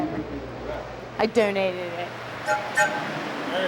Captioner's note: train whistle blows